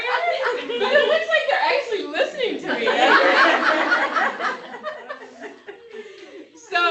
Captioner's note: laughter